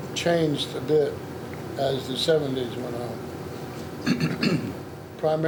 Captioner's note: clearing throat